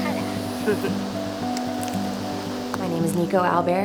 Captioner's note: laughs